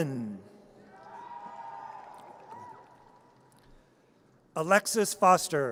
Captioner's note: audience cheers